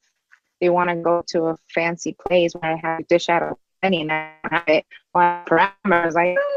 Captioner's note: garbled by connection